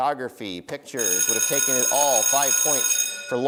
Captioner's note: timer ringing